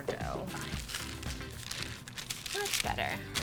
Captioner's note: paper crinkling